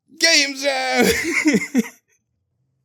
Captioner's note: laughs